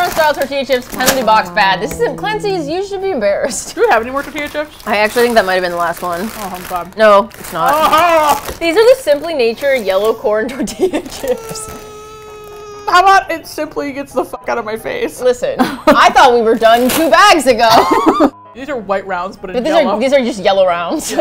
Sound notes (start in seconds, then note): 10.6 laughs; 17.7 both laugh